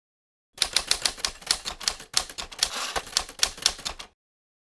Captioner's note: typewriter Clacking